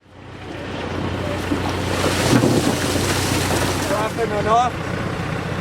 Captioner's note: tractor engine in background, indistinct voices of workers